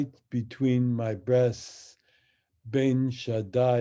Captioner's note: speaks in Hebrew